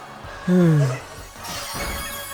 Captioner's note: sigh